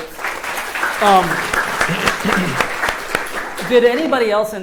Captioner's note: applause